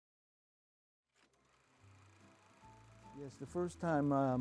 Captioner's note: film projector whirring